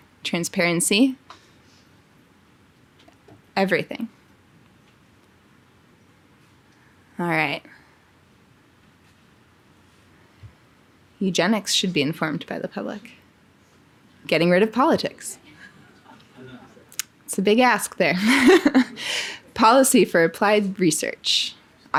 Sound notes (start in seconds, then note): 16.0 audience laughing; 18.2 laughing